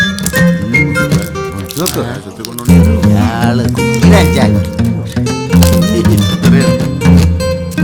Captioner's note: indistinct chatters